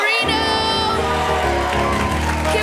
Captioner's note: applause